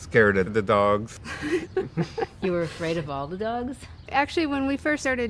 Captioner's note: laughing